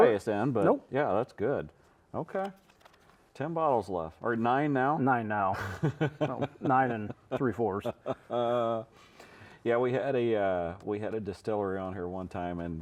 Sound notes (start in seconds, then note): 8.2 chuckling